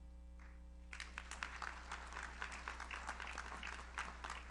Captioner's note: audience applauds